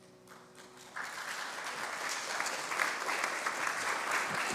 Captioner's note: congregation applauds